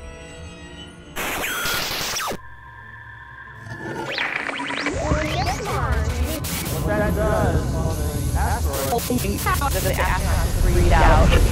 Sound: sound Effects

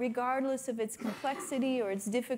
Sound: attendee coughing

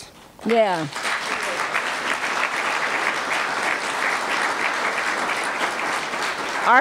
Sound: applause

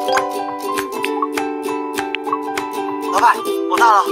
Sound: someone rang the doorbell

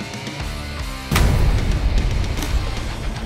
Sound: gunshot; rock music

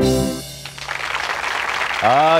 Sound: applause

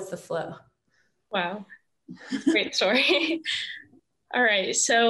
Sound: chuckles

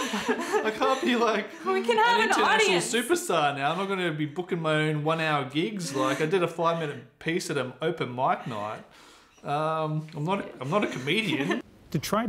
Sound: laughter

